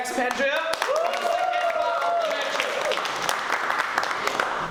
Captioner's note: applause and cheering